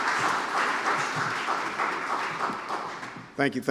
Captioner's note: applause